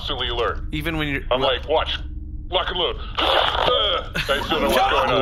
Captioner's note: sneezes with a truly bizarre rubbery sound